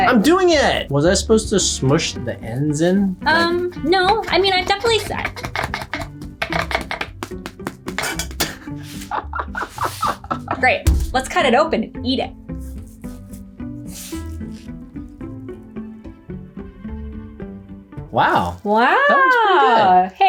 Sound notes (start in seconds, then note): 4.5 patting; 8.8 laughs